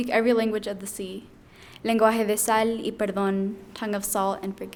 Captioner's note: speaking in foreign language